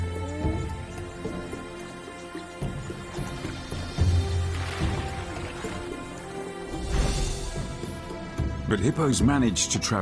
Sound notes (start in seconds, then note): 0.0 dramatic music; 2.8 river waves crushing